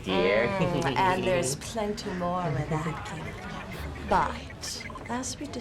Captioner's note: Ferengi - giggling